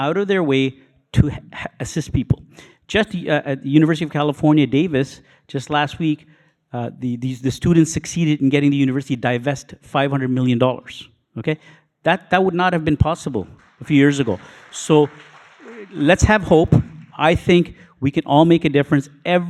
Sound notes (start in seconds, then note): 15.9 audience applauding